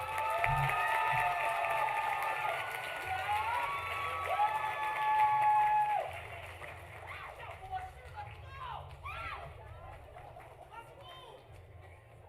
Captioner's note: applause